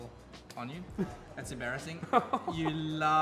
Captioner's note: awkward laugh